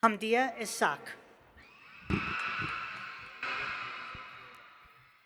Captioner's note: cheers